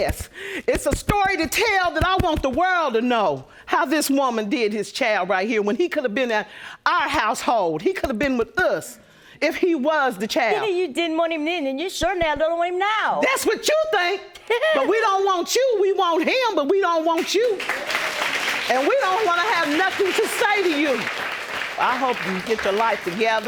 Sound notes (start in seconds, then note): 14.4 laughs; 17.4 audience applauds